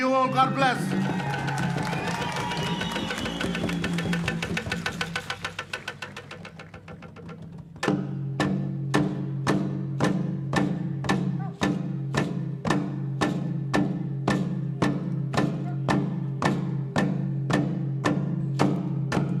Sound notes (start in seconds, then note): 6.2 cheering and applause